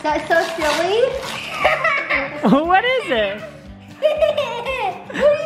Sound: laughs

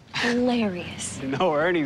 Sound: chuckles

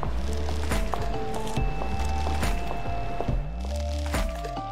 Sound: mysterious music continues; high heel footsteps

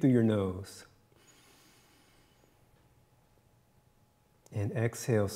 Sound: inhales

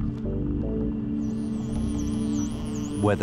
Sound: dolphin whistling

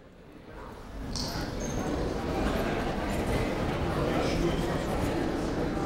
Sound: people talking in the crowd

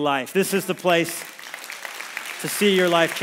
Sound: congregation applauds

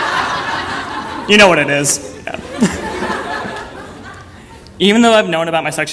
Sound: audience laughter; laugh

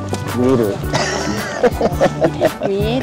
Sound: laughs

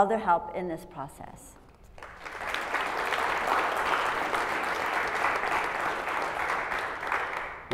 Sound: applause

